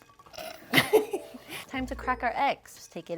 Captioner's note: laughs